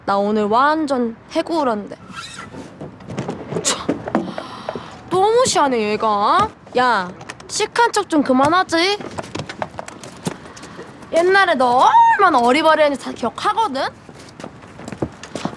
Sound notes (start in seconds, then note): 3.6 scoff